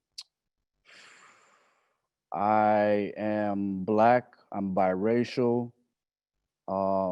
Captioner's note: exhales